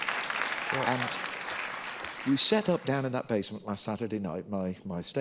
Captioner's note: applause